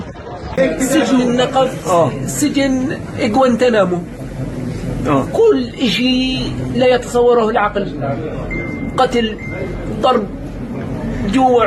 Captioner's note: speaking arabic